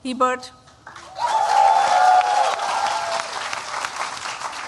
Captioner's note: cheering